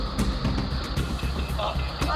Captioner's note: disconnect tone